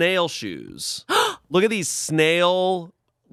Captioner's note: gasps